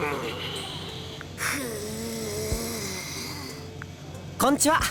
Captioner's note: seething